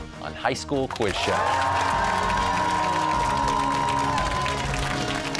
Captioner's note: cheers and applause